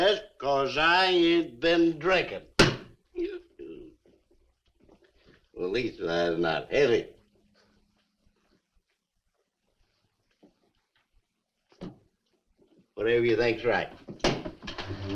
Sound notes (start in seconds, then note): 3.2 Harris belches